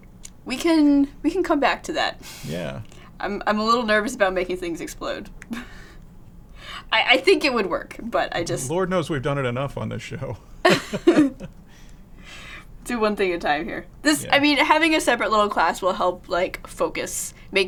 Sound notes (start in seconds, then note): 5.3 chuckles; 10.6 laughter